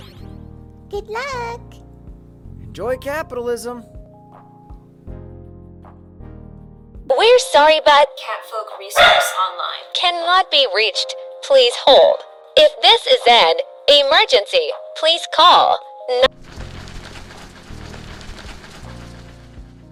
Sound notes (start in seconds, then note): 7.1 synthetic voice; 8.9 bark